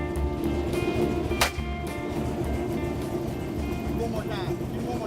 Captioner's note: gun fire